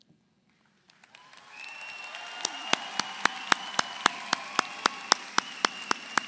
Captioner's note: audience applauds; audience cheers